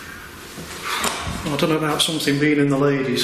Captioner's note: loud exhale